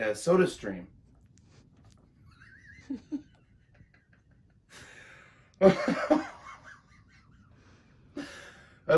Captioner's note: laughs